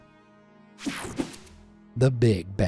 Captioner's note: screen whooshing